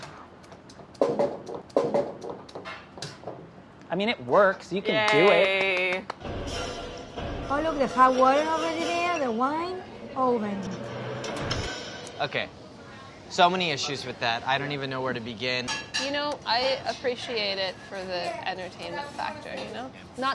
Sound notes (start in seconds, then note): 5.0 applause